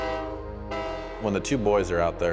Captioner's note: train horn blowing